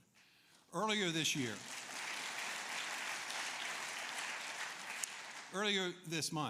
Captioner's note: applause